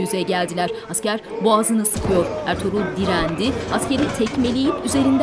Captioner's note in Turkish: Dua sesleri